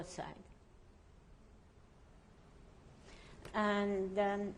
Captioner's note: pauses for 3 seconds